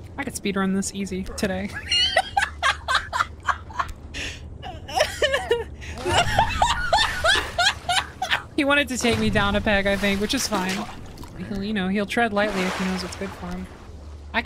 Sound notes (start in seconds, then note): 4.6 laughter; 4.7 boisterous Laughter